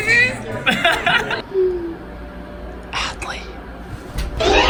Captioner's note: laughs